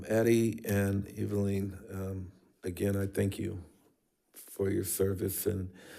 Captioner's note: none